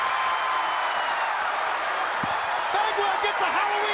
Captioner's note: crowd cheering